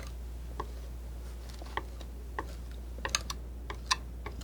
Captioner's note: scratching